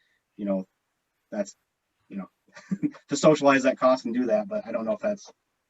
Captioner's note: laughs